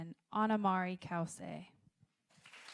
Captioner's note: applause